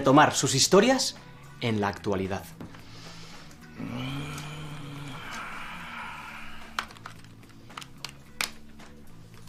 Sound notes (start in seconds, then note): 4.3 breathes pensively